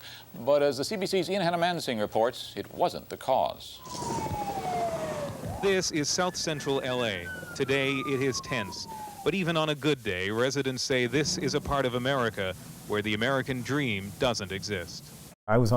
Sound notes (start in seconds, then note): 4.5 sirens